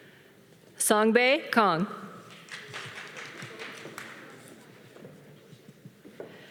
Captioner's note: audience applauding